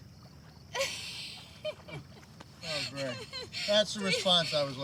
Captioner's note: laughs